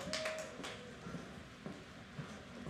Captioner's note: applause